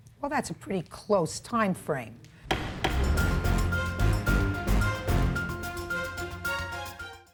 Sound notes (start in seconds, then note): 2.4 gavel thumping; 2.5 dramatic music